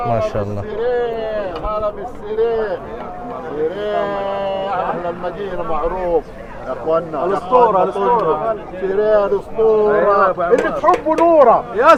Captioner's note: Arabic